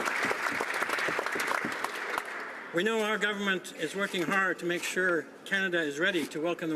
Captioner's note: applause